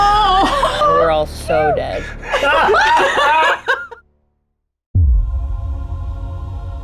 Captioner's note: laughs